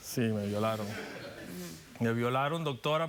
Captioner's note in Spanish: risas